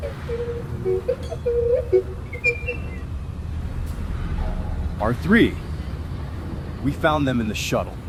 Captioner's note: playfully beeps